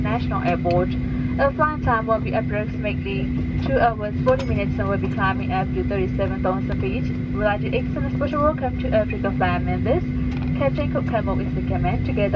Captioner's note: cabin crew continuing the announcement in English